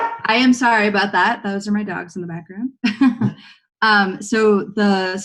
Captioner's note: laughs